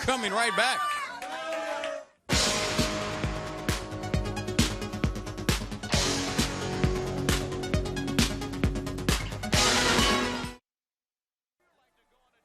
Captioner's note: crowd chatter